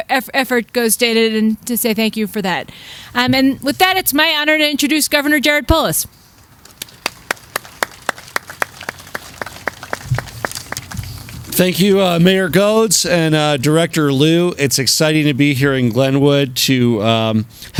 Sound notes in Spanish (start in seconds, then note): 6.8 aplausos